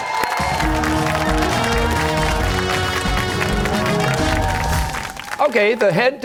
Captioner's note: cheers and applause